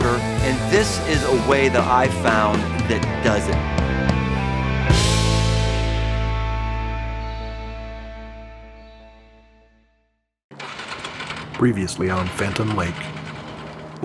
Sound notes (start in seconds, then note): 10.5 motorcycle engine revving